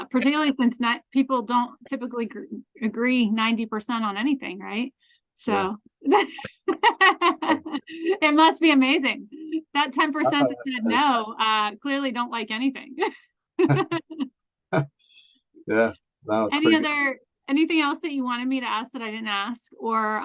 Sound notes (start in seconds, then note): 6.1 laughs; 13.6 laughs